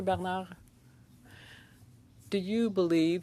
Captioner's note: speaking French